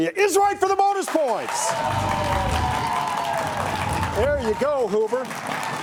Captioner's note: audience applauds